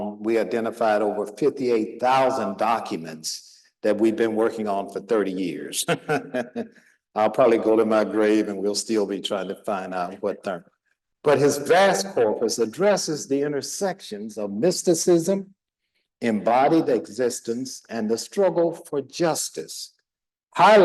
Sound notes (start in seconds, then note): 5.8 laughing